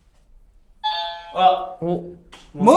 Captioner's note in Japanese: 解答音